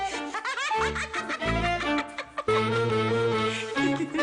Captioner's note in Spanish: Ríe